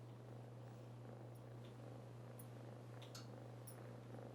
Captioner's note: cat purring